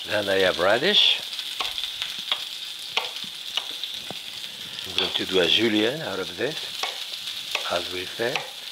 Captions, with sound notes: Then, I have radish. (knife softly chopping) (pan sizzling) Going to do a julienne out of this. As we say.